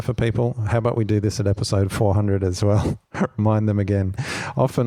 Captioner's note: laughs